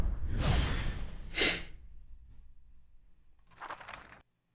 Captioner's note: hmph